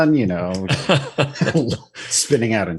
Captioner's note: laughter